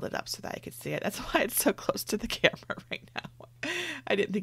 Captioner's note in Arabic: يضحك